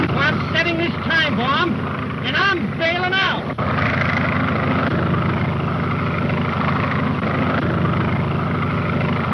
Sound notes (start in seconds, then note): 4.1 engines droning